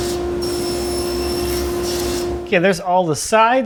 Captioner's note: tool squealing